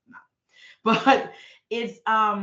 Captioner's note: chuckling